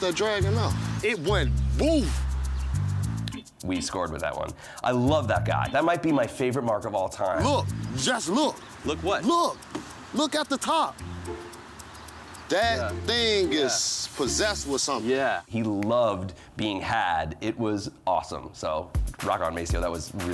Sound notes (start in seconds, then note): 3.0 snaps fingers